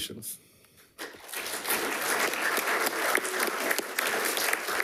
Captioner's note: attendees clapping